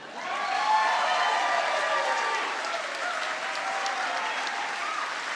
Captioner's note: audience applauds